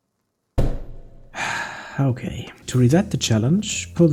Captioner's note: sigh